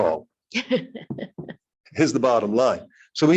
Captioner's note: laughing